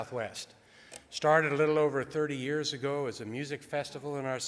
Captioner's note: none